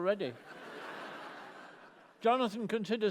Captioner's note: laughter